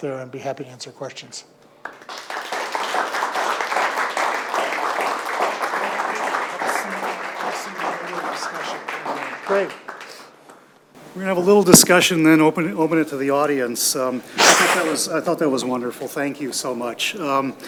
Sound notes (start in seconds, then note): 1.8 audience clapping